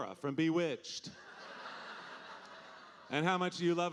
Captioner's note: audience laughing